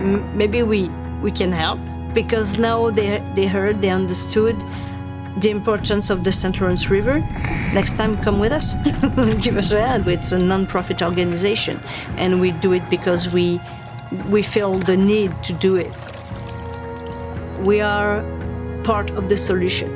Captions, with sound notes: maybe we, we can help." Because now, they, they heard, they understood the importance of the St. Lawrence River. "Next time, come with us." (laughing) "Give us a hand; it's a nonprofit organization." And we do it because we, we feel the need to do it. We are part of the solution.